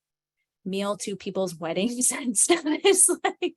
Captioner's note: chuckles